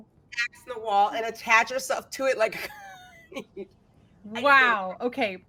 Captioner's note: chuckles